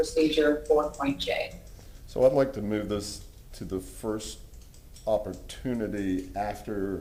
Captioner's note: ~distortion~